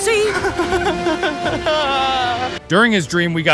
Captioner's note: crying Sarcastically